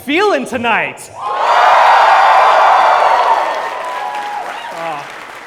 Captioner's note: cheers